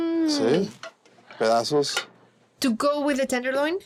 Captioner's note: speaking Spanish